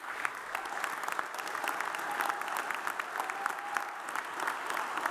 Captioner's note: audience cheers and applauds